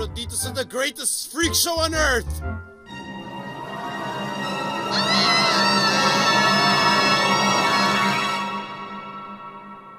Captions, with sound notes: of The Greatest Freak Show on Earth... [screams]